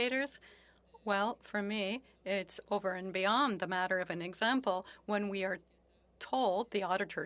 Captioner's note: speaking French